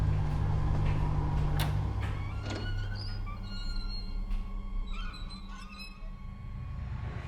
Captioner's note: hinges squeaking; dryer door opens